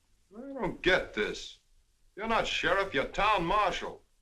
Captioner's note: none